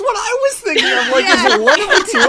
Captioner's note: laughs